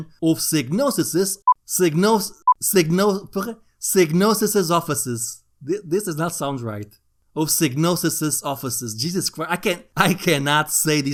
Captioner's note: english fail ensues